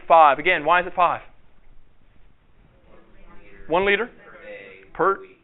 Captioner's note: audience response